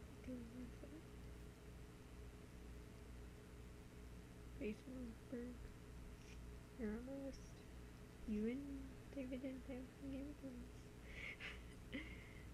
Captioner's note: laughs